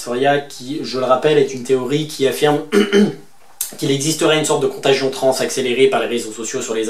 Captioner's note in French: raclement de gorge